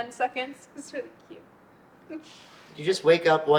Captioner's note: giggles